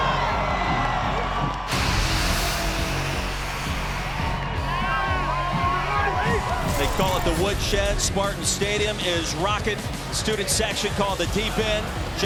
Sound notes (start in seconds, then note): 1.7 smoke machine releasing